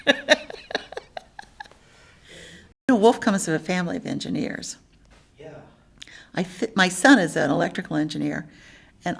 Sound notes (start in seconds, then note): 0.0 laughs; 5.5 voiceover